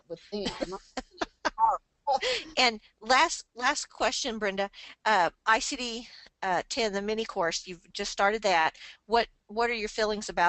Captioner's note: laughs